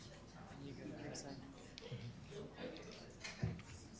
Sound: group chatter

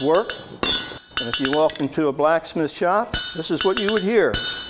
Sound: metal clinking

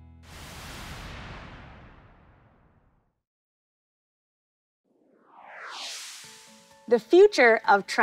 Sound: whoosh sfx

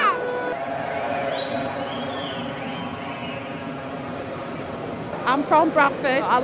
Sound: crowd cheering

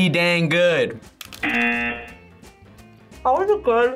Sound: buzzer rings

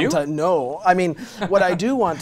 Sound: laughing

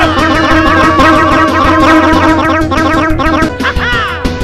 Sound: more panicking

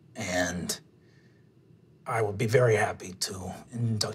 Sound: none

